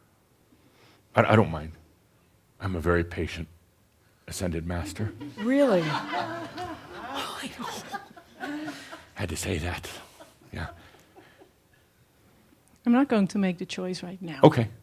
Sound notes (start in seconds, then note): 4.7 some giggles